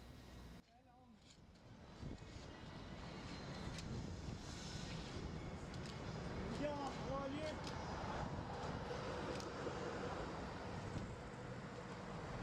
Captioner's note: sounds of a city street